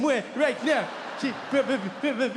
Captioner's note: audience laughing